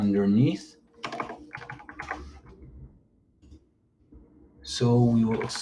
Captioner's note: keyboard clicks